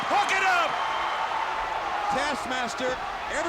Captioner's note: crowd cheering